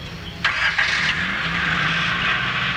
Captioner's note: engine starts